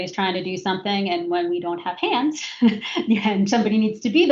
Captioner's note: laughs